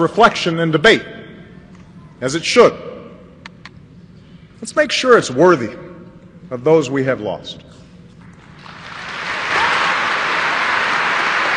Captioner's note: applause